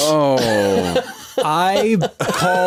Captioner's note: laughing